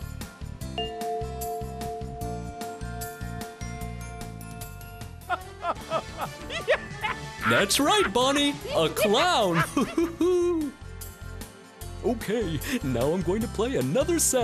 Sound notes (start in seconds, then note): 5.3 laughs; 9.4 chuckles